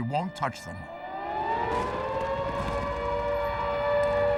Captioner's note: air-raid sirens blaring